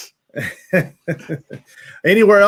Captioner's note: laughs